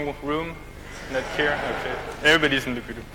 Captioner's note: audience laughs